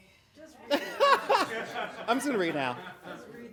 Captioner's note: laughing